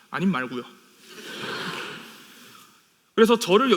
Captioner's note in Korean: 웃음